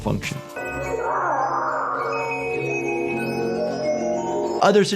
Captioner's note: victim screaming